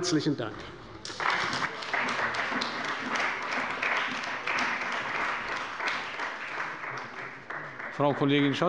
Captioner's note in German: Beifall bei der CDU und dem BÜNDNIS 90/DIE GRÜNEN